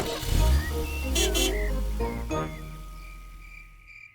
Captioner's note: horn honks